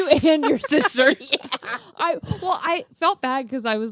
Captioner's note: laughs